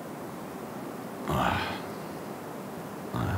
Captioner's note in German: Er ächzt